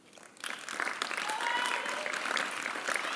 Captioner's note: applause